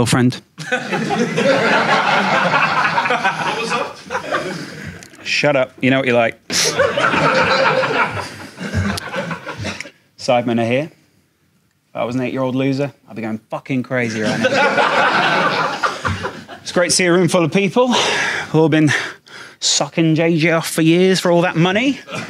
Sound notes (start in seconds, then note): 0.6 audience laughs; 6.5 audience laughs; 14.1 Sidemen laugh; 14.2 audience laughs